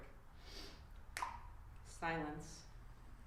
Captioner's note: snaps fingers